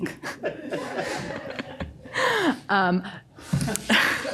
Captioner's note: everyone laughing